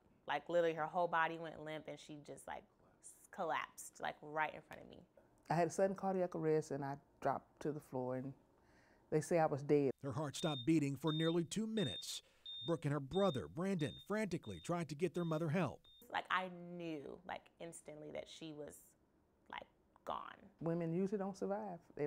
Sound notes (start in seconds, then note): 10.0 beeping